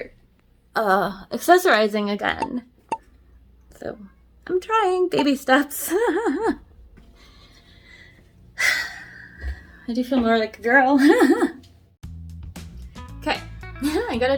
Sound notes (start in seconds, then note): 6.3 sighs; 11.0 laughs; 13.4 laughs